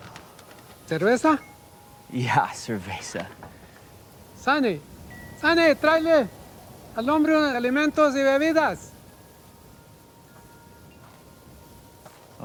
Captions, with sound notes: (Dayne exhaling) - Cervaza? - Yeah, cervaza. - Sonny, Sonny. (speaks in Spanish)